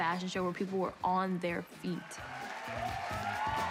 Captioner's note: cheering